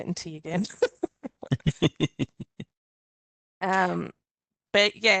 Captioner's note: chuckles; laughter